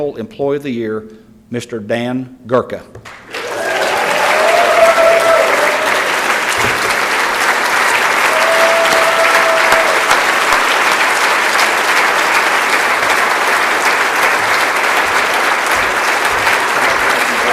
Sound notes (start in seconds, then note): 3.1 applause